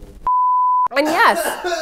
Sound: beep; coughs; coughs again

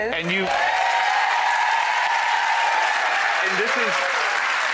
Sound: audience cheers and applauds

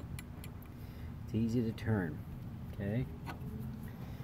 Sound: the engine

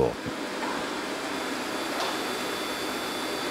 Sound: machines roar in the background

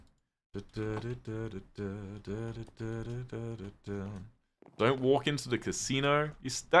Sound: hums

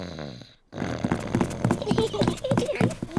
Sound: snores; both giggle

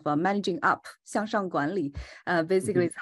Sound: speaking in Chinese

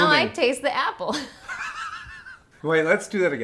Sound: laughing

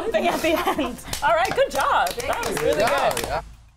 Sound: claps

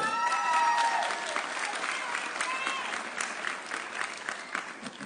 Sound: audience cheering

